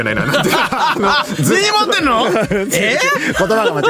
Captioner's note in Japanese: 笑い